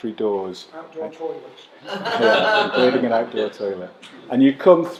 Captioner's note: laughter